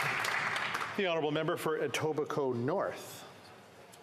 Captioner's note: applause